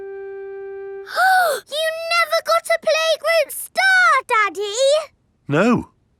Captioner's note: gasps